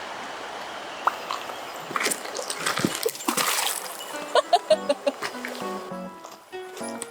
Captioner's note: laughs